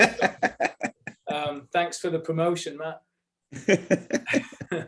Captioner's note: laughter